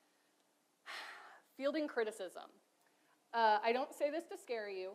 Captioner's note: sighs